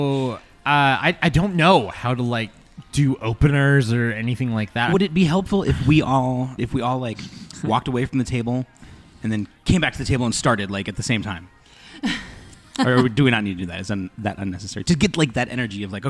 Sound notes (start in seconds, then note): 12.5 laughs